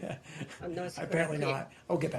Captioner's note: laughter